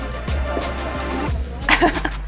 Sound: laughs

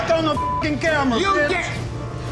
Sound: beeping

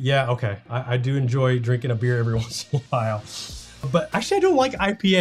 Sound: chuckles

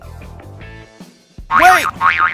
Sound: bouncing noises

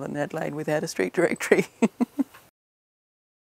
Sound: laughs

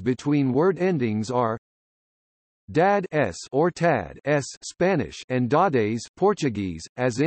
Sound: Spanish

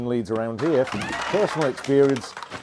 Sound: steps, crashing, scream

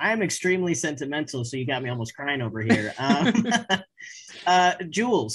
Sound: laughing

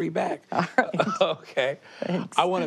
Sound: laughs

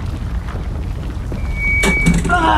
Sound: mic drop

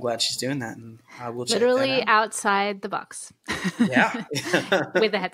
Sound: laughter

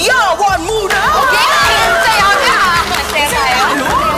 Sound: people cheering

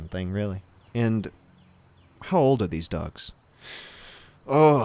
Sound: exhale

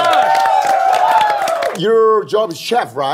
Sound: everyone cheering

